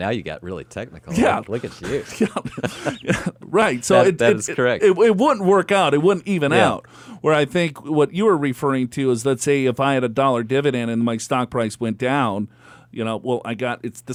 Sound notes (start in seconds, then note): 1.1 laughs